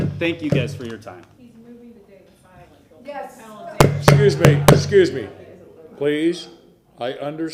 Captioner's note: gavel sounding